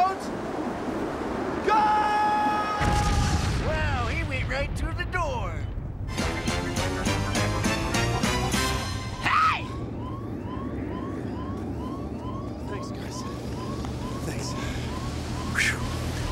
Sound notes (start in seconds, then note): 2.8 <i> loud crash</i>; 10.8 <i> alarm whooping</i>